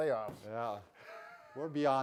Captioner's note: laughs